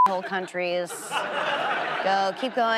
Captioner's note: audience laughs